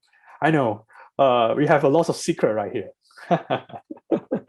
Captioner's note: laughs